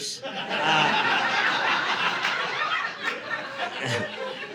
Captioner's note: audience laughing